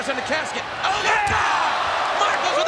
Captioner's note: audience cheers